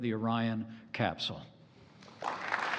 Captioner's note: applause